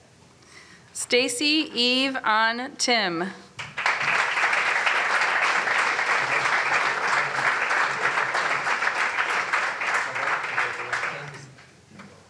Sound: applause

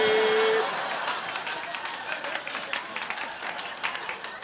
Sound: crowd laughing

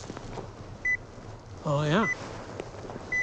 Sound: beeps

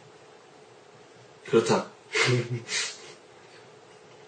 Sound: chuckles

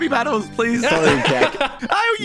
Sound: people laughing

